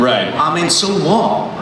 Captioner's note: voiceover